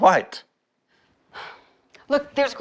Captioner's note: Ruth scoffs